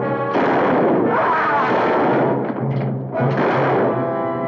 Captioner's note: gun firing